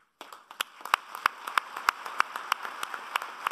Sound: applauding

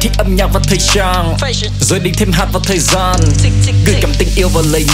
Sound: tick tick

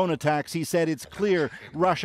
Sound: speaking alternate language

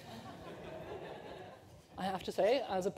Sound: laughter

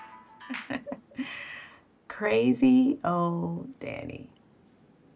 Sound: chuckles

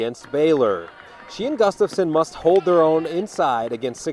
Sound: cheering, whistle

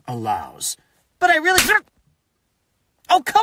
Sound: slap

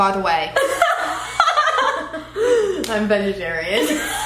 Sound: both laugh

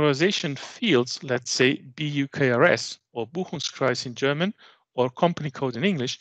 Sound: german

